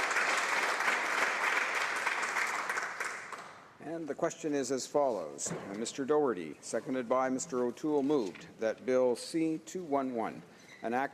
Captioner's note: some Applause